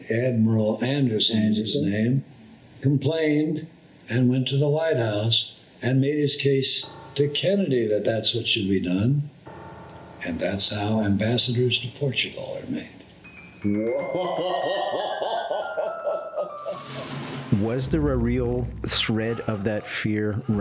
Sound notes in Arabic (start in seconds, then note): 14.0 يضحك المحاور